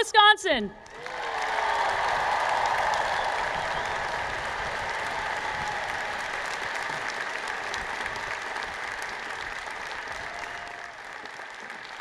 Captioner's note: applause